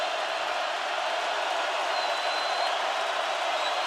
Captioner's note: crowd roaring